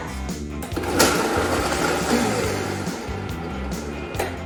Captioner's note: blender buzzing